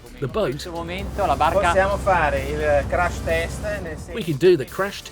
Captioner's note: speaking in foreign language